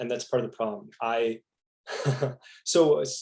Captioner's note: laughing